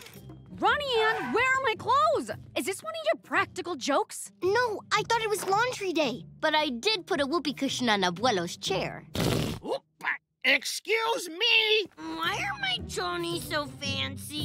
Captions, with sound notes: Ronnie Anne, where are my clothes? Is this one of your practical jokes? No, I thought it was laundry day. But I did put a whoopee cushion on Abuelo's chair. [farting noise] Oop, ah, excuse me! Why are my chonies so fancy?